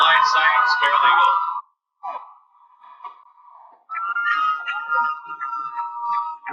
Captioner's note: cheering